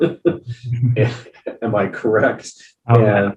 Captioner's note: chuckling